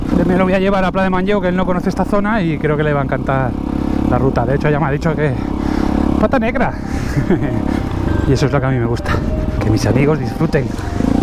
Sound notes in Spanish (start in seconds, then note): 6.8 risas